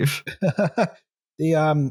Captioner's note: laughs